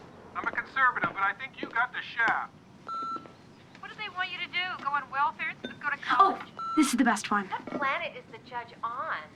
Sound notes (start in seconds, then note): 2.8 beeps